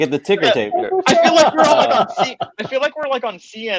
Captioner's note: laughing